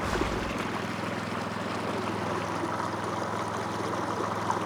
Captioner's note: motor chugging